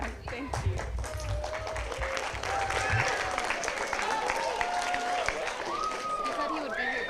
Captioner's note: applause